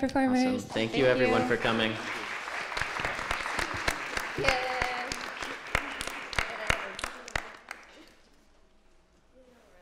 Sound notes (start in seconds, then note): 1.2 applause